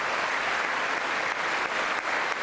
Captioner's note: applause